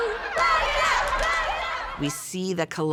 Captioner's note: crowd